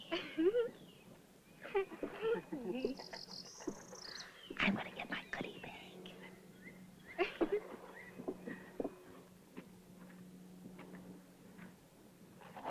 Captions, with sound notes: [ LAUGHS ] [ WHISPERING ] I wanna get my bag.